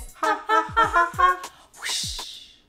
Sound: both imitate whooshing

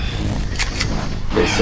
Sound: gun cocking

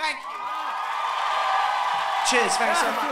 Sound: cheers

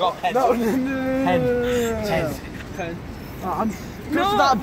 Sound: laugh

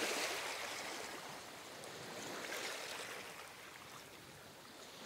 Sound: ocean erupts in a gentle but ginger rumble

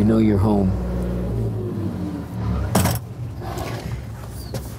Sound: boat engine whirring

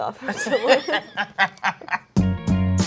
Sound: laughs; upbeat music

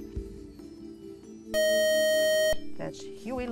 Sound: beeping

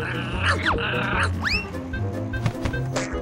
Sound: none

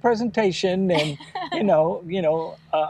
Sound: laughing

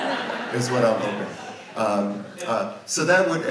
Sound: audience laughs

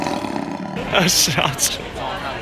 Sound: laugh

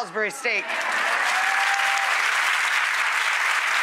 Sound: applause

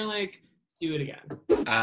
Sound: whoosh

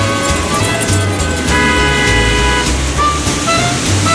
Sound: cars honking

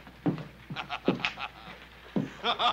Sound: Hoss laughing

